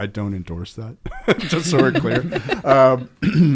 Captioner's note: all laugh